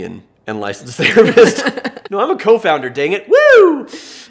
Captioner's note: laughing